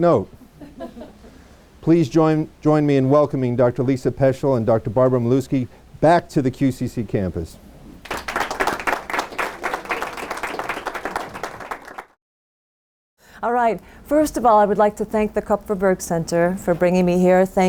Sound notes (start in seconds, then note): 8.0 applause